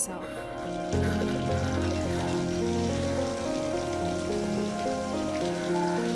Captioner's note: disembodied whispers; water hissing